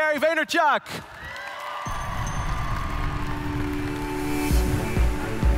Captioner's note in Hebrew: הקהל מריע; מוזיקה דרמטית